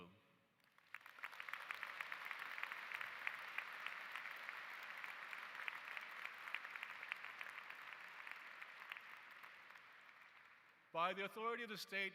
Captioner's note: applause